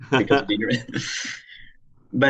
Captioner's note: laughter